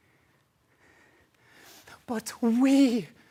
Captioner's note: soft breathing